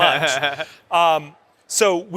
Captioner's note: laughs